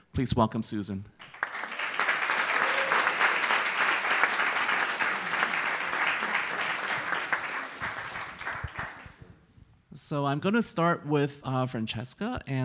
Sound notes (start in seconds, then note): 1.8 audience applauds